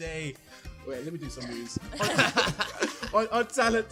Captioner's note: laughing